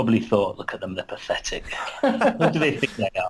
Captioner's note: laughs